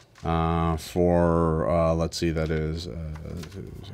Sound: murmurs

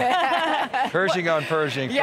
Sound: laughing

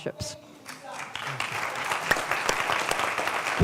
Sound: applause

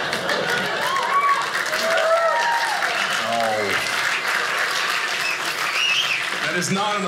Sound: audience laughing; audience applauding

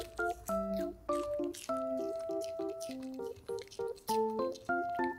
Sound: smacking lips unlike her elegant face

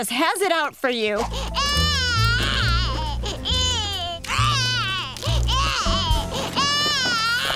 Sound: crying

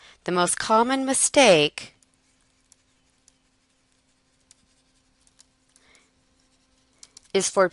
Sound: silence

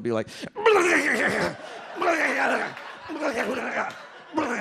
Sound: grunting sounds

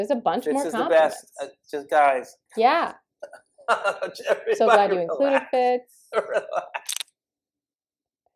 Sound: laughter

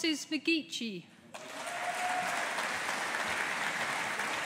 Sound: audience applauding

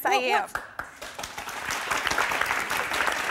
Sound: applause

